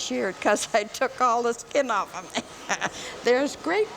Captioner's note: laughs